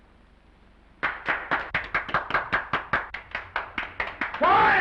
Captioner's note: prisoners applauding